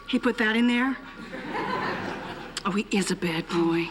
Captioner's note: laughter